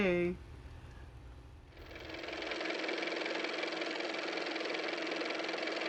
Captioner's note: car motor